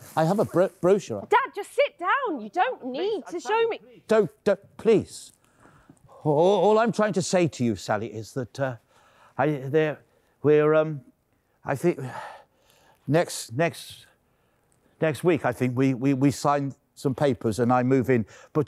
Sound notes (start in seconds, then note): 13.5 stammering